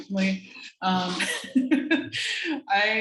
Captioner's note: laugh